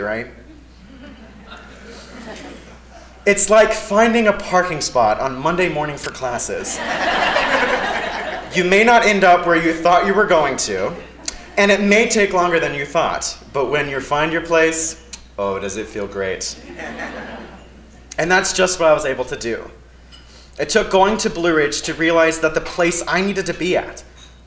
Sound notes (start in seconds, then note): 0.5 laugh; 6.7 laugh; 16.6 laugh